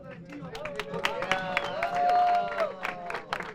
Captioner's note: cheering and applause